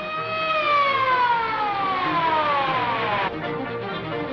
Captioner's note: police sirens wailing